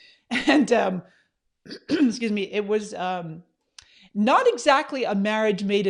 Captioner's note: coughs